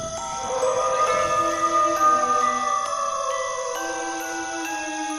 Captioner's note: werewolf howls